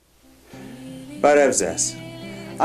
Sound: armenian

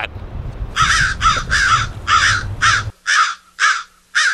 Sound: birds cawing

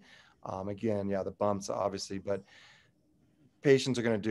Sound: sighs

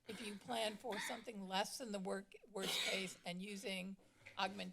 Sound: coughing; coughing

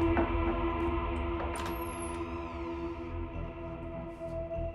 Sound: door creaks

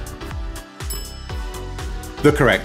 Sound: bell clinking

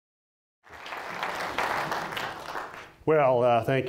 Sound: applause

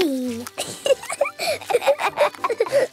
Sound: both laughing

